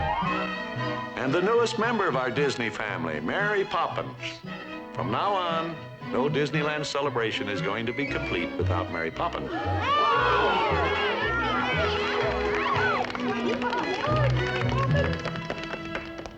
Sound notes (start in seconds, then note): 9.3 crowd gasping; 11.4 applause